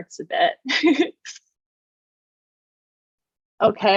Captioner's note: laughs